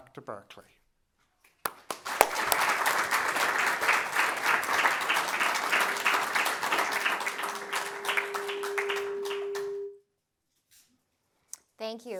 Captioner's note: applause